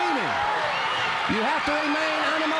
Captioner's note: crowd cheering